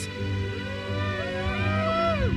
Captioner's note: attendees cheering; uplifting music continues